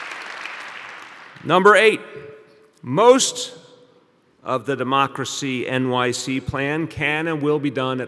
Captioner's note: applause